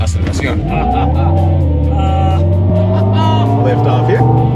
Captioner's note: engine revving; laughter